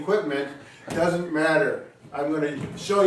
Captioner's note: hand tapping